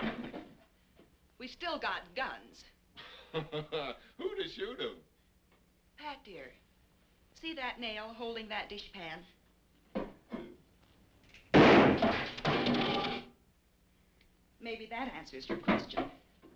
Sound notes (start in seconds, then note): 3.0 Pat laughing; 11.5 gun firing